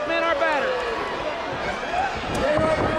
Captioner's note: crowd cheering